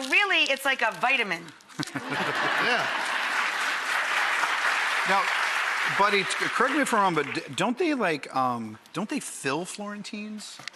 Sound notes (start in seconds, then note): 1.7 laughing; 3.0 clapping